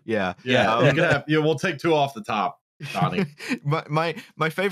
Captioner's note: laughter